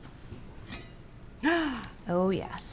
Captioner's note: gasps